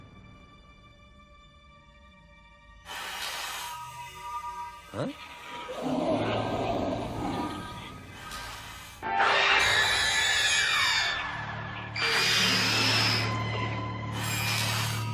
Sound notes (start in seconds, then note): 5.6 growling; 9.2 roaring